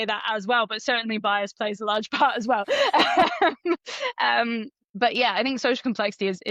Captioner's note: laughs